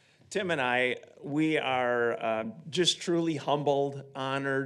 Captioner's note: none